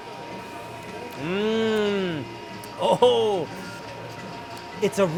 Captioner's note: moans